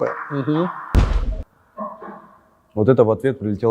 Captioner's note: something explodes nearby